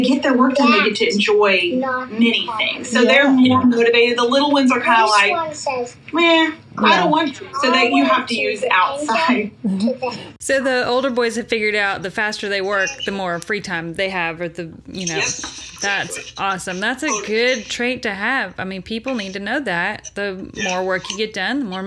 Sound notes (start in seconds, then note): 9.7 laughs